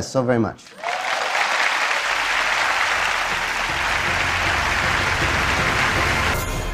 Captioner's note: Applause; 掌聲